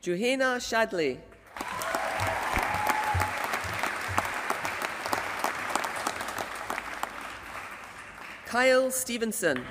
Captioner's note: applause